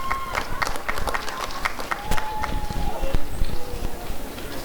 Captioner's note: applause and cheering